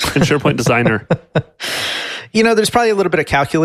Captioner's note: laughs